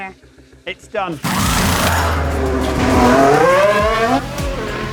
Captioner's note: car engine roaring